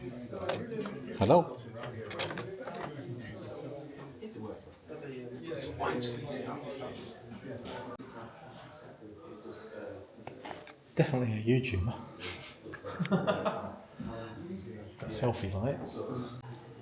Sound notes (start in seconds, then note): 12.2 laughter